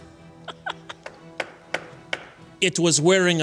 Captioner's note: laughter